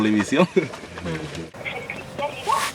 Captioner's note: voice on the phone